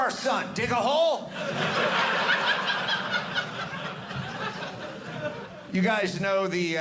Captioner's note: audience laughing